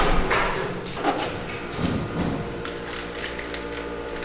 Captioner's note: tools in background